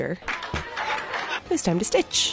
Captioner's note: audience laughing